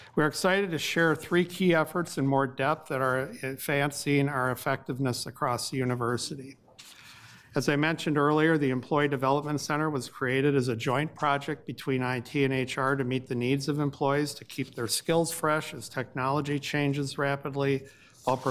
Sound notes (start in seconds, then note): none